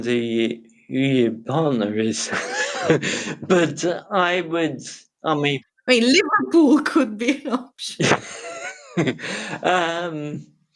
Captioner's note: both are laughing